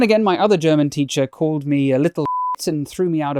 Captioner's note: beep